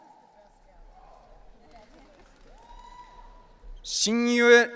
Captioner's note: audience cheering